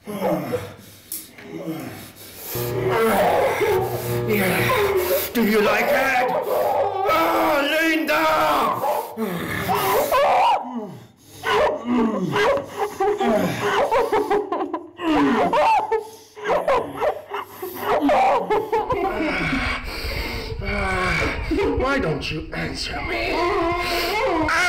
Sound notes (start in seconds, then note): 0.0 grunts; 2.4 light buzzes; 2.5 grunts; 9.5 Linda sobs hysterically; 9.5 grunts; 17.8 moans